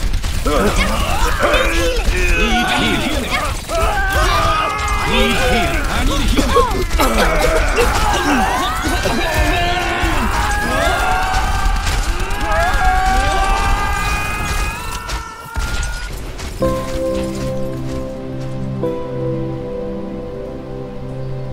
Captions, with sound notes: *intense fighting and suffering* I NEED HEALING NEED HEALING NEED HEALING *screaming* *sad music*